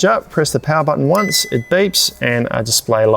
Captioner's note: fridge beeps